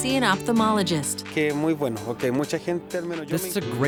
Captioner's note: speaking spanish